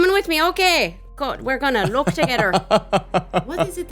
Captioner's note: laughing